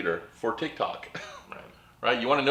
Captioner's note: laughs